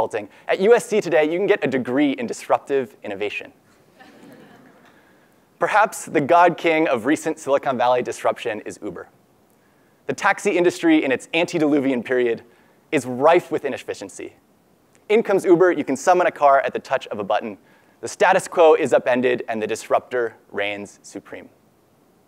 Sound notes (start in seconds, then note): 3.9 laugh